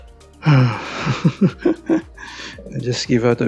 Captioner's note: sigh